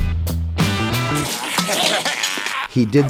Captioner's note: upbeat music; metal clanking; man groaning